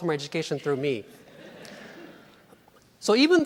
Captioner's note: laughing